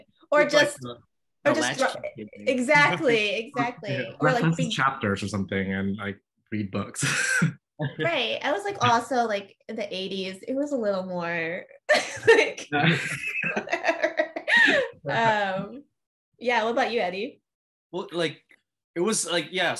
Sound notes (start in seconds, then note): 11.9 laughter